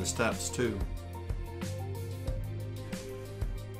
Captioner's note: none